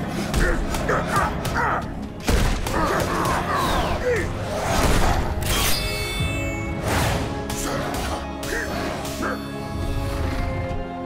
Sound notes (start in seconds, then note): 0.2 grunting; 8.4 grunting